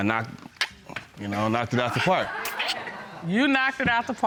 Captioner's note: clicks tongue